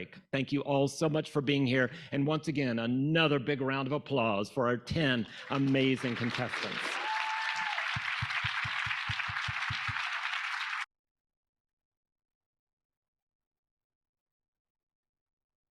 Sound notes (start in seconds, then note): 7.0 audience applauding; 7.0 audience cheering